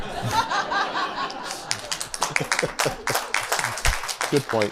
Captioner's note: laughter, applause